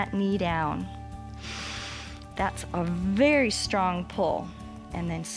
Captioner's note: inhales